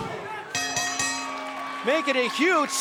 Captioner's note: bell ringing